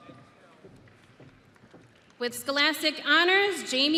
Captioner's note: audience applauding